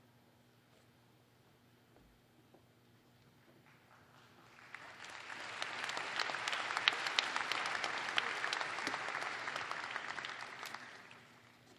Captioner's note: applause